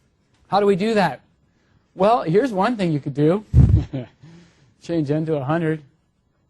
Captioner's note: laugh